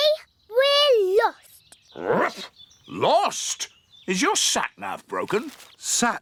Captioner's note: barks